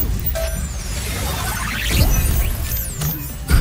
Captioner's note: Mechanizer whirring